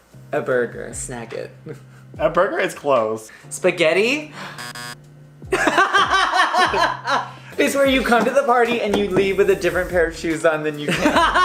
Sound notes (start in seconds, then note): 4.3 gasps; 4.4 rock; 4.5 a buzzer sounds, laughs